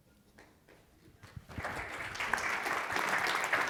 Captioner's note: applause